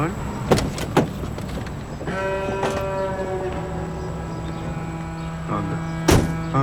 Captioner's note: dramatic music; metal clicking